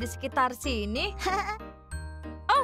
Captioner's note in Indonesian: Pinkfong tertawa